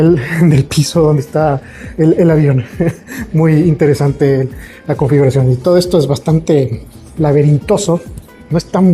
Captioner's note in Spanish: risas